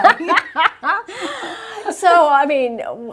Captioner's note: laughs